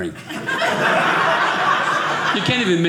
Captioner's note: audience laughing